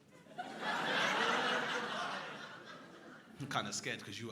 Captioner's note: crowd laughing